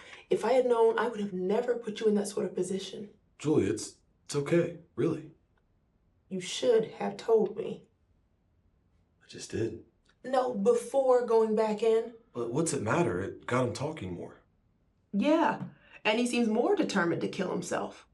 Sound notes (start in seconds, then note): none